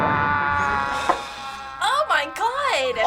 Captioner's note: both kiai-ing loudly; sighs